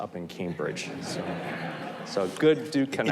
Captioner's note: audience laughs